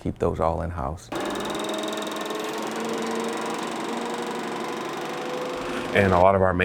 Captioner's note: engine noise